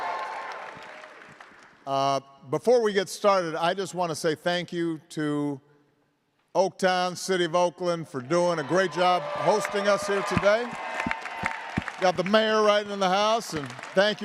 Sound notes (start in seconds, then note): 8.4 cheers and applause